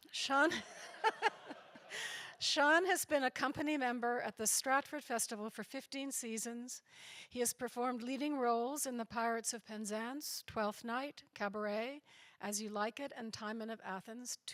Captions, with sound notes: Sean, (she and audience laugh) Sean has been a company member at Stratford Festival for 15 seasons. He has performed leading roles in the Pirates of Penzance, Twelfth Night, Cabaret, As You Like It, and Timon of Athens,